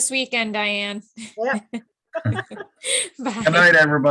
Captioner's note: laughs